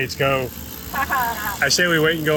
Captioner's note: laughs